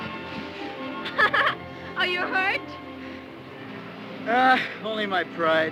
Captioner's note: laughs